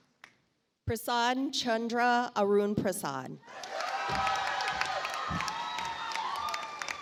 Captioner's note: audience applauds